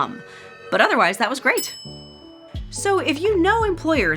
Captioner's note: bell dings